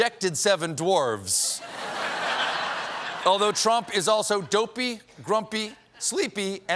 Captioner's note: laughter